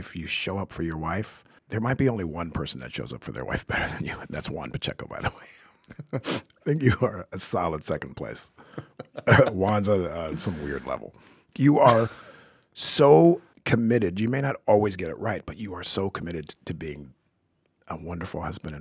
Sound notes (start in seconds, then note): 5.8 chuckling